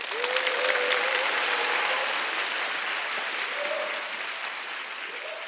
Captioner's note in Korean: 박수